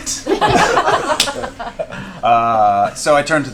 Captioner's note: laughter